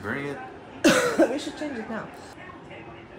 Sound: cough

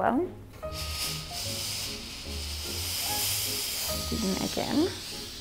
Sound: iron hisses

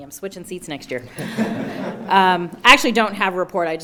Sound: everyone laughs

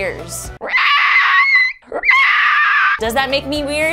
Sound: dinosaur noises

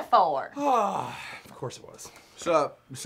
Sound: sighs

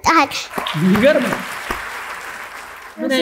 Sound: applause

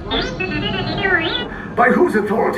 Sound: robot squeaking

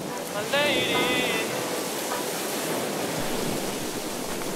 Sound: ocean sounds

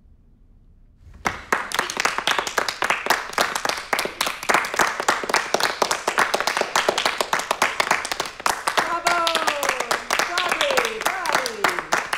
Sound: applause

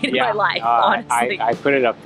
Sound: laughing

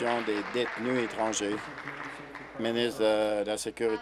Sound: applause

